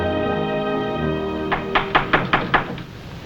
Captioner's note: knock